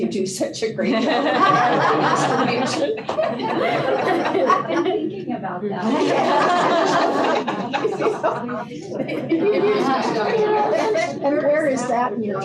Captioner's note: laughter